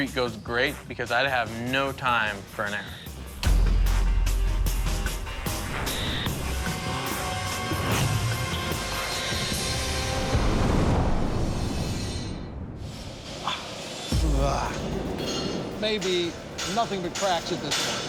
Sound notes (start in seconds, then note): 3.4 tense music; 13.2 scoffs